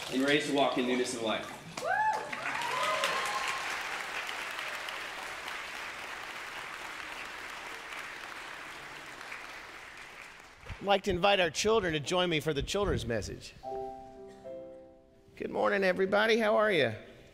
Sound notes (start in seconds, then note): 2.2 congregation clapping and cheering